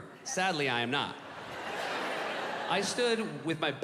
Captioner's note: audience laughing